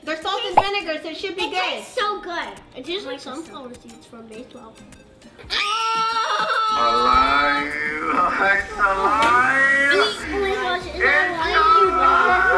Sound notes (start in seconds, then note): 5.4 screaming; 7.4 tape Recorded Voice